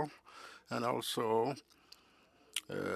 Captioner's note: speaking French